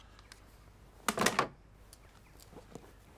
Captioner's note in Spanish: marco de fotos suena